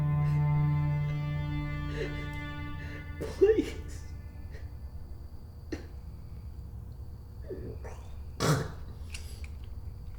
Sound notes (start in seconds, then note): 5.5 crying